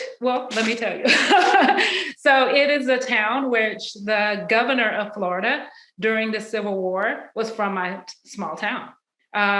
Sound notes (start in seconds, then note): 0.5 laughs